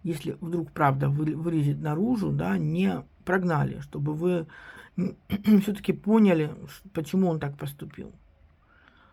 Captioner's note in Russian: откашливается